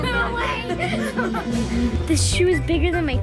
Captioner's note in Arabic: يضحك